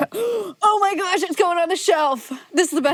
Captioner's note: gasps